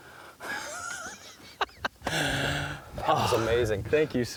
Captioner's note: laughing